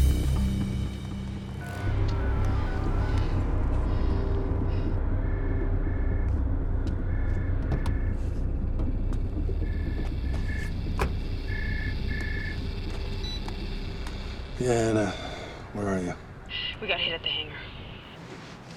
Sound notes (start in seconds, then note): 5.1 phone rings